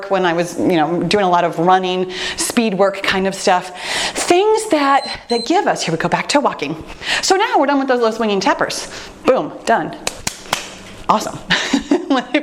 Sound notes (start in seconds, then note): 4.8 timer beeps; 10.1 clapping; 11.7 laughing